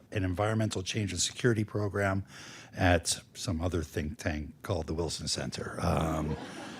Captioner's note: laughter